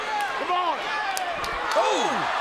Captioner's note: hands clapping